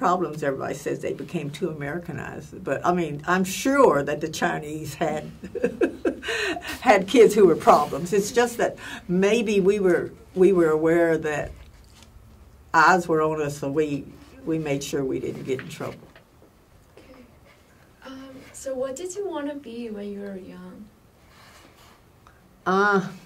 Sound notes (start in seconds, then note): 5.2 laughs